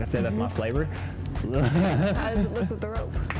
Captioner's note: laughs